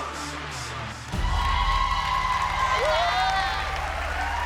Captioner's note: whooping